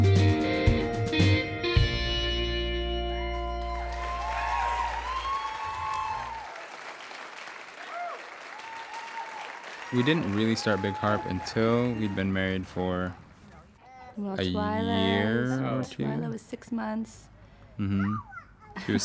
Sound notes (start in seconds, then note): 3.2 applause